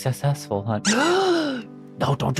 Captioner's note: gasps